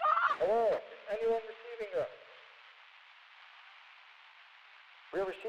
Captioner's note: radio Voice